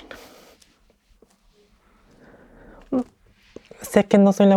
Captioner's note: cries